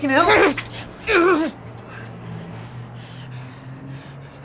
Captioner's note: Mark grunting